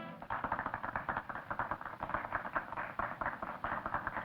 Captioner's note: clapping